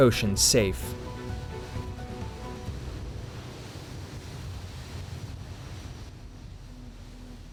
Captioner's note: gentle music continues; waves roll